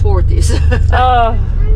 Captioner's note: laughter